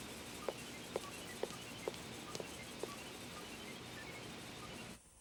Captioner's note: footsteps leaving